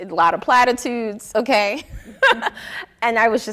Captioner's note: laughing